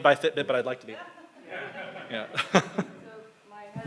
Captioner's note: everyone laughs